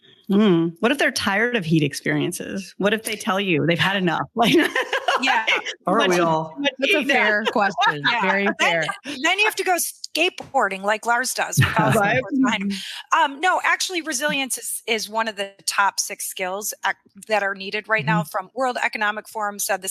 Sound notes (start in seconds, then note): 4.4 laughs